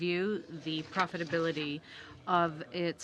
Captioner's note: speaking French